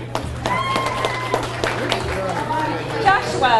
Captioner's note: audience cheers and applauds